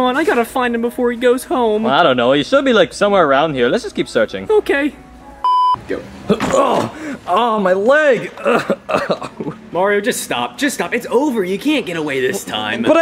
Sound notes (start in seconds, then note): 5.4 beep; 6.4 Mario grunts; 8.8 Mario grunting